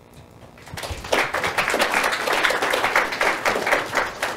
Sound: audience applauding

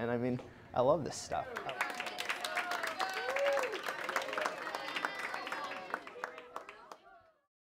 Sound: clapping

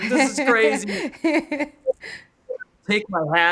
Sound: laughing

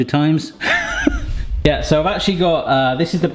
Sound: laughing

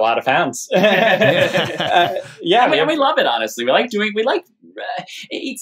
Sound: laughter

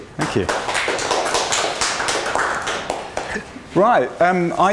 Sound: applause

